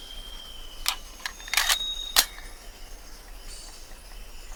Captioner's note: gun clicks